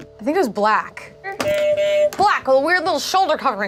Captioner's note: buzzer honks